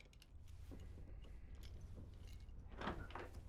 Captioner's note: none